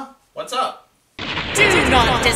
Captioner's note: lightning sound; voice echoing